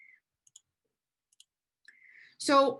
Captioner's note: mouse clicking